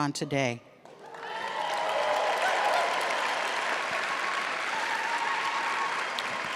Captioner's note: audience clapping and cheering